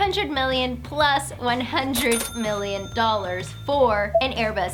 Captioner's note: cha-chinging